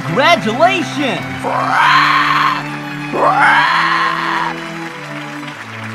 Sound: Naganadel screeching

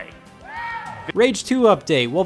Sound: someone yells

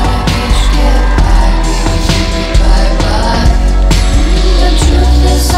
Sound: audience cheers

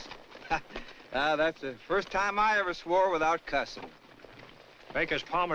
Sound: chuckles

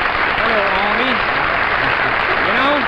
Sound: crowd clapping

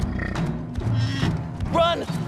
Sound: rhino snorts

